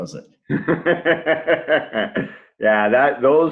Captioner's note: laughs